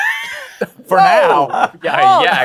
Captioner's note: laughter